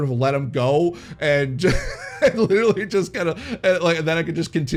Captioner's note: laughs